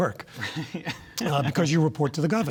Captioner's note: laughter